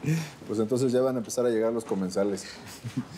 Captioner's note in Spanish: él ríe